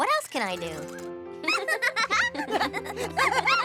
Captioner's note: laughter